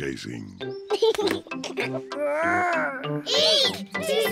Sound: giggles

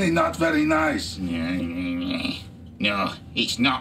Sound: Mr Grumpy grumbling

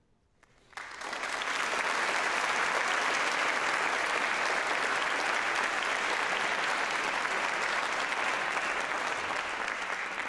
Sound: applause

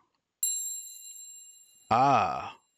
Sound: ding

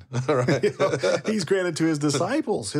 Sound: laughing

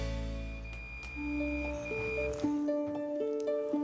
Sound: high-pitched whine, buzzing

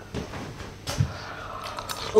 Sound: slurp

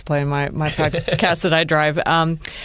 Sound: laughter

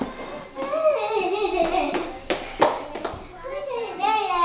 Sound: happily chatters

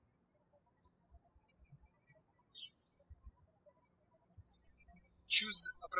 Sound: birds chirping

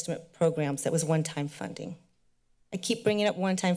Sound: none

